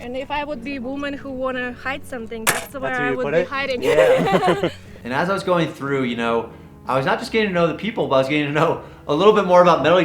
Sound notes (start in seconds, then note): 3.7 volunteer laughs